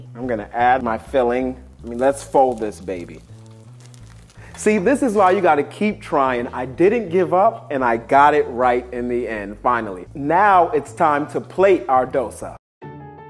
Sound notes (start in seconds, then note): 3.5 dosa sizzling